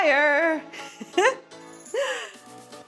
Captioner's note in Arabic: تضحك